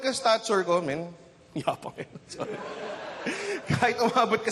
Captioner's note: chuckles; audience laughs